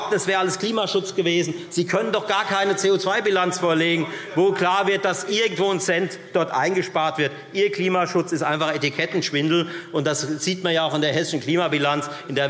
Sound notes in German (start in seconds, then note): none